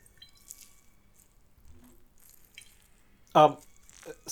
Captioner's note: sloshing and writhing